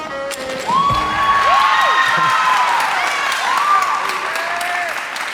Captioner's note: onlookers cheering